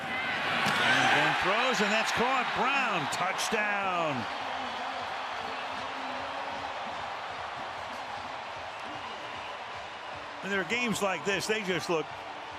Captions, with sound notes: And then throws, and that's caught. Brown-- touchdown. [cheers, applause] When there are games like this, they just